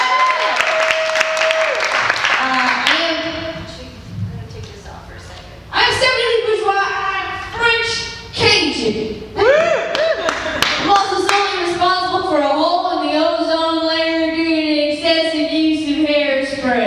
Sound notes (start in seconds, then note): 0.0 claps and cheers; 9.4 cheers